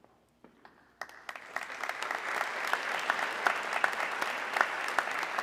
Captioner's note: audience clapping